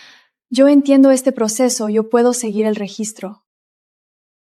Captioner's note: speaking Spanish